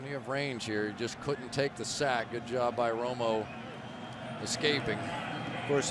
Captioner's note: crowd cheering